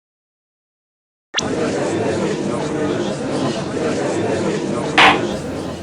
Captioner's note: gallery chattering